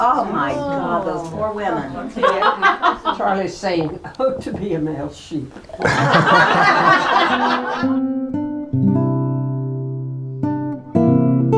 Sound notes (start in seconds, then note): 2.0 laughs; 5.6 laughter